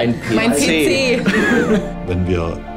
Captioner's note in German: lacht